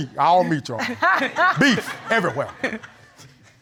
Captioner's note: Judge Lake laughing